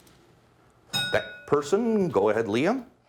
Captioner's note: ding